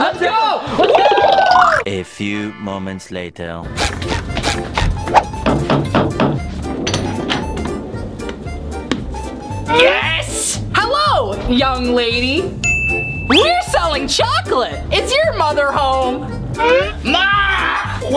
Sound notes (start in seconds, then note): 3.7 knocking; 3.7 upbeat music begins